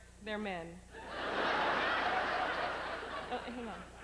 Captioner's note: howling laughter